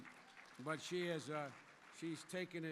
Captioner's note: applause